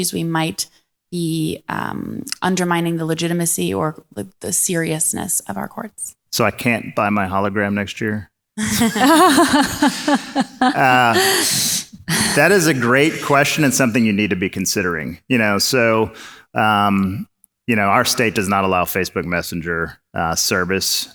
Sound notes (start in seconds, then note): 8.6 audience laughs